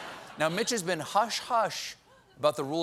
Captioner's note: laughter